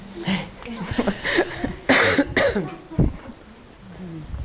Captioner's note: attendees chuckle